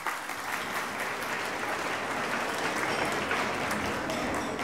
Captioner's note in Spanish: aplausos